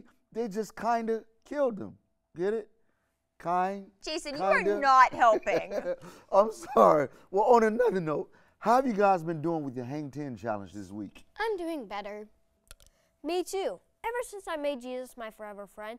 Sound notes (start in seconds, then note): 4.3 laughs